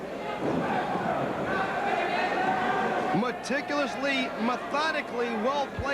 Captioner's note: crowd cheering